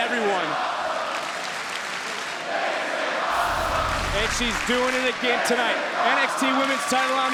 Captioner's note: applause